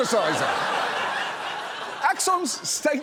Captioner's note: audience laughs